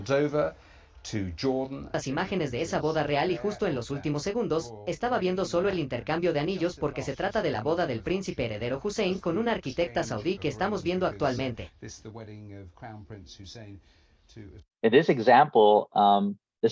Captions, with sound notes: >> [Spanish audio] >> This is the wedding of Crown Prince Hussein to. >> In this example.